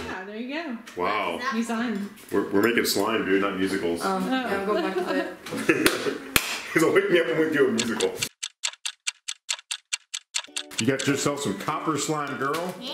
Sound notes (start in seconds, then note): 4.3 laughs; 7.6 timer ticking